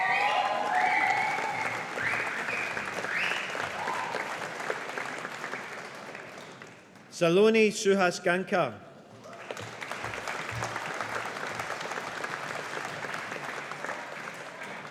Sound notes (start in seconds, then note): 0.0 audience applauding; 9.2 audience applauding